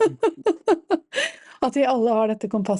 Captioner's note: laughs